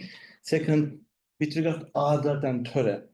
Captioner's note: speaks in foreign language